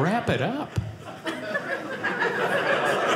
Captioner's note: audience laughing